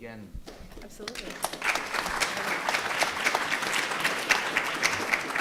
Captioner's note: audience applauds